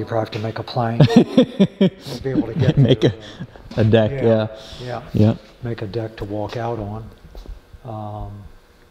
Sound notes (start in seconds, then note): 1.0 speaker 2 laughing